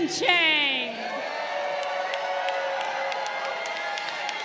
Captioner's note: crowd cheering